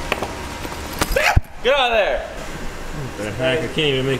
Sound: yelps

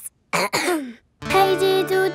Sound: clears throat

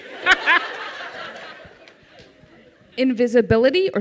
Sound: laughter

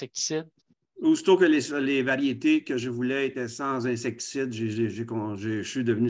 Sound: speaking foreign language

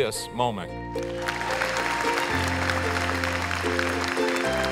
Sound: applause

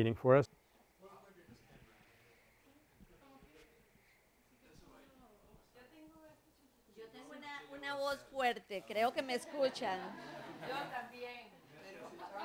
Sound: Spanish

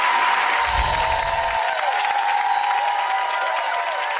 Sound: twinkle

